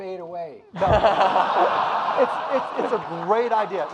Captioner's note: audience laughing